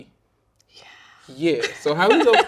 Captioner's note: laughing